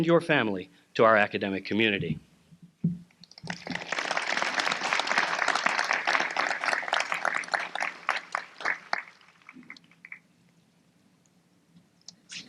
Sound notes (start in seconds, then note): 3.3 applause